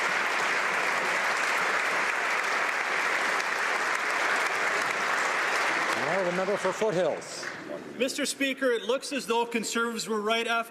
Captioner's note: applause